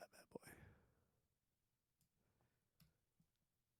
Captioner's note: silence